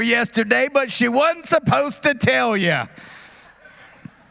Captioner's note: laughter